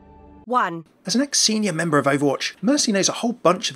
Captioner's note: voiceover